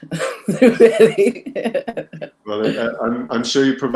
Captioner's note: laughs